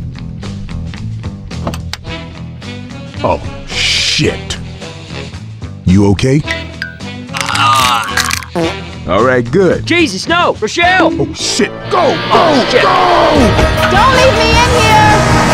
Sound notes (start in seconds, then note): 1.5 car door opens; 7.3 Francis screaming and bones breaking